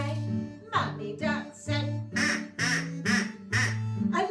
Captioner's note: quack, quack, quack, quack